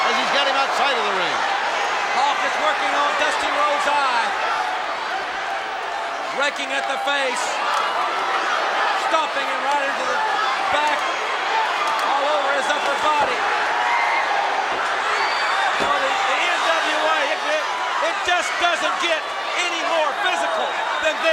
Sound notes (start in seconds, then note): 13.5 crowd shout